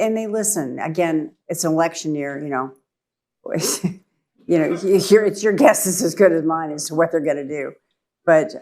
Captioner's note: laughs